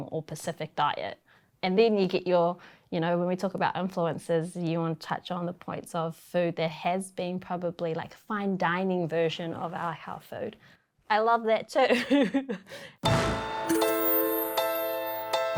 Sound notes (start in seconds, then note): 12.0 chuckles; 13.0 intriguing music